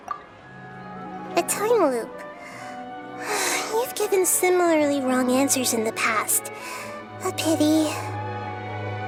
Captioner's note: sigh